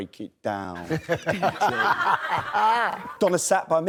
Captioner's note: laughs